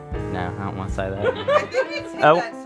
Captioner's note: laughing